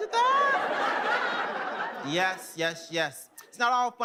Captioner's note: audience laughing